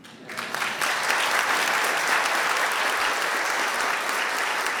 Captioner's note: audience applauds